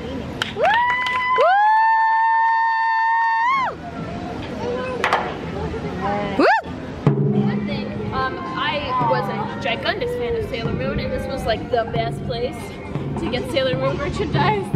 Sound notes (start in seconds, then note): 0.5 cheering; 0.7 drumming